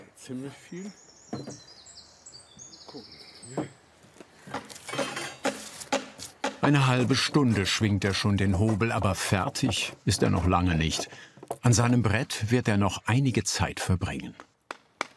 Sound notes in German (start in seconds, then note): 5.1 Hämmern